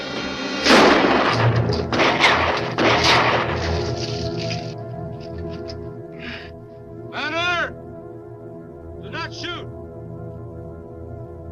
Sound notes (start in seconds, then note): 0.6 guns fire; 3.5 water splashes